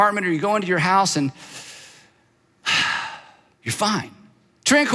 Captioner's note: exhales